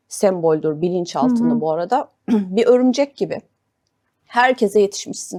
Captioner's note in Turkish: boğazını temizler